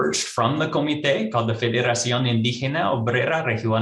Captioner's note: speaks in foreign language